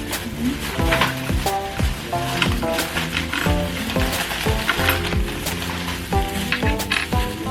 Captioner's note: rummaging